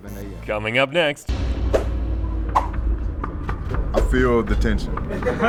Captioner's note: intense dramatic music; fast-paced air swooshing